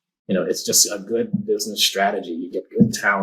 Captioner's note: none